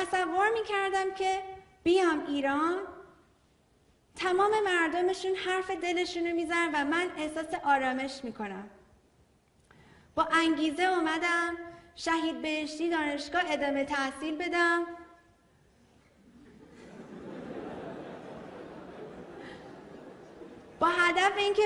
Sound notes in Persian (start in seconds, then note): 18.8 خنده‌ی حضار